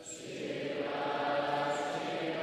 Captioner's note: none